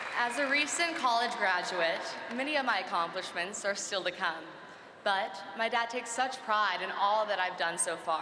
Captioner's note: cheering and applause